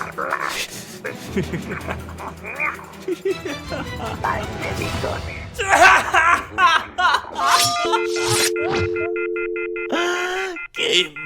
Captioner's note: laughing